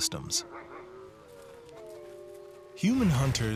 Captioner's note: wolves barking, howling